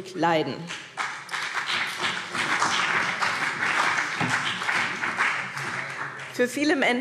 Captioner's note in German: Beifall BÜNDNIS 90/DIE GRÜNEN